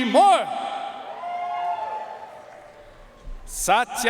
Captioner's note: audience cheering and applauding